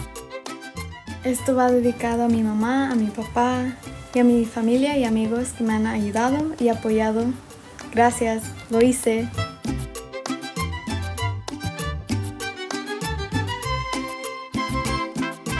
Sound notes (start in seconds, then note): 1.2 speaks in foreign language